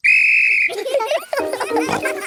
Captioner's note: blows whistle; giggling